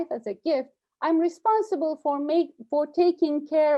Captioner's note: stutters